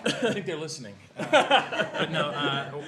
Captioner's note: laughter